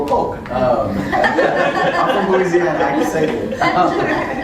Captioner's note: laugh